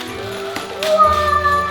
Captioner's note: assistant gasps